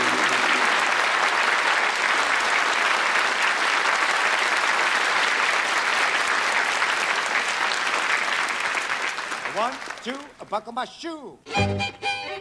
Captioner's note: applause